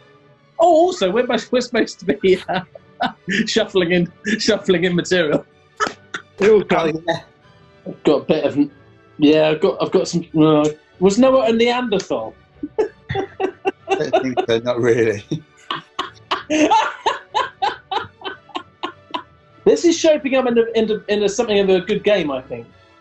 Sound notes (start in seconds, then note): 2.0 laughing; 6.6 laughing; 10.4 groans; 12.6 giggling; 15.7 laughter